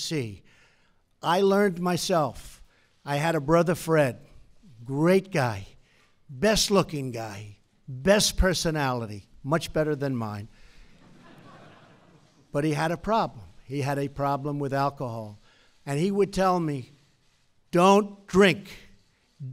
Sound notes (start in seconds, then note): 10.9 laughter